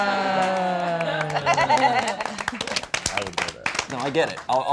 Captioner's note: all applauding